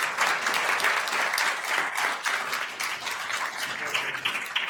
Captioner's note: attendees applauding